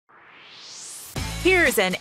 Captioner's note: swoosh